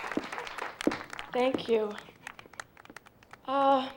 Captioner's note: on microphone